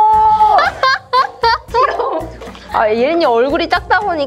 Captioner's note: laughter